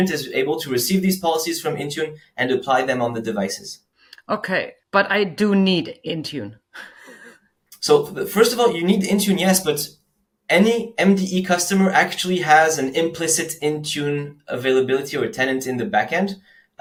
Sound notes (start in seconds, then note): 6.8 laughs